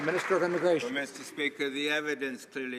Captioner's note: some Applause